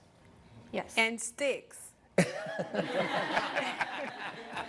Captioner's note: laughter